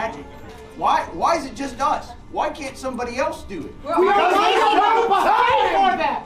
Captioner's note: commotion